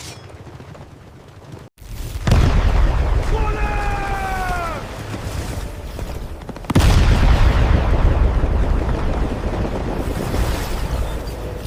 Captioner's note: gunshots